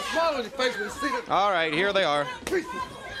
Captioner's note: crowd cheering